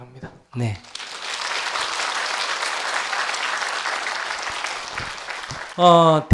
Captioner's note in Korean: 박수